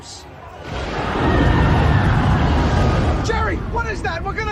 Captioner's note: thunder, screaming